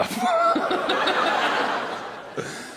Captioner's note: laughter